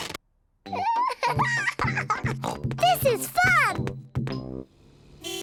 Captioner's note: giggles and oinks